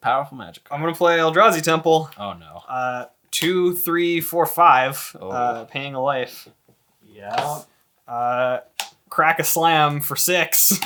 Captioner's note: counting